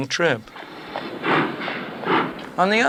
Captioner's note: locomotive starting to move